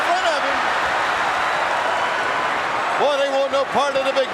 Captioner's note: audience cheering